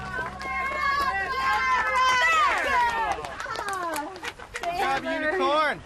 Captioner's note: applause